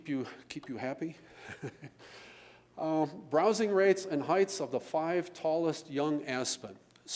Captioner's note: laughs